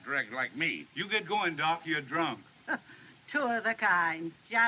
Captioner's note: scoffs